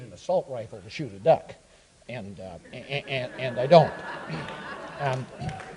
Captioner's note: audience applauds